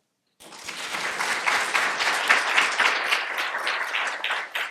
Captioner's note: audience applauding